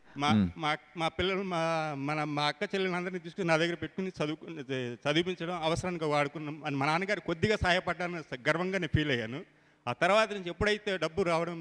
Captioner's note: speaks in telugu